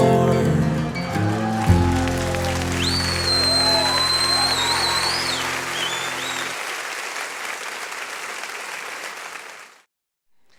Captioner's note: laughter and applause